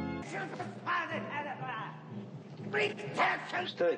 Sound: organ music; indistinct shouting

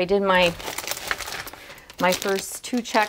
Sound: bag rustling

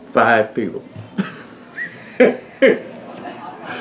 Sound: laughs

